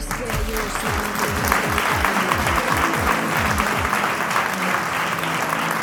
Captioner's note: applause